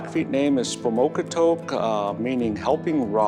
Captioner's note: speaking Niitsíʼpowahsin